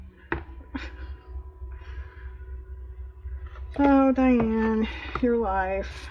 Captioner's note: laughs